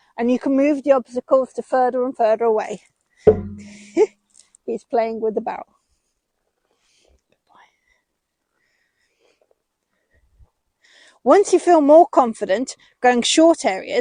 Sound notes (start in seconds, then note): 3.7 giggle